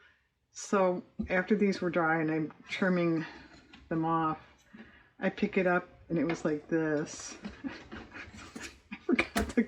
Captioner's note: laughs